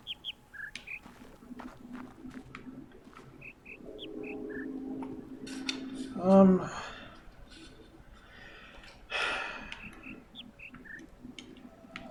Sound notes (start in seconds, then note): 0.0 bird chirps ˥ ˥ ˩ ˧; 2.6 bird chirps ˧ ˧ ˥ ˧ ˩; 8.3 sighs; 9.5 bird chirps ˧ ˧ ˥ ˧ ˩